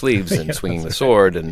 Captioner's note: laughter